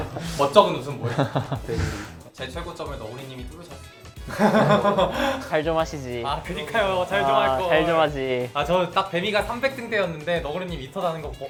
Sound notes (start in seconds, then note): 1.0 awkward laugh; 7.1 laughs